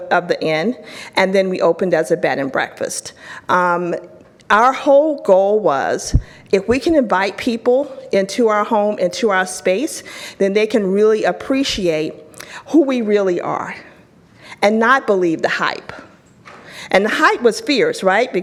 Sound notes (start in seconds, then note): none